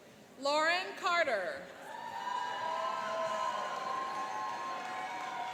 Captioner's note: cheering and applauding